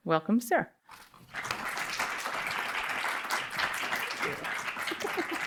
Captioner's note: audience applauds